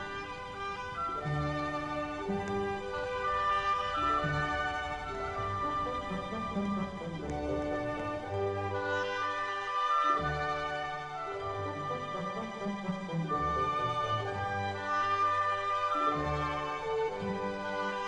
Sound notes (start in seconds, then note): 0.1 wind blows softly; 7.4 very angry footsteps